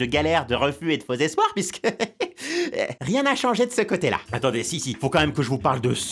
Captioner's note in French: rire